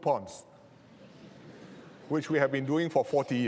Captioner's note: laughter